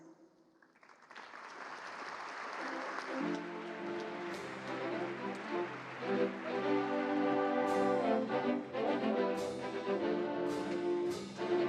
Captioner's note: applause